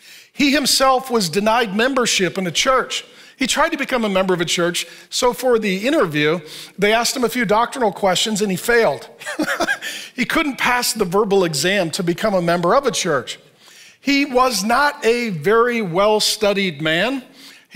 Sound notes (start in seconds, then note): 9.2 laughs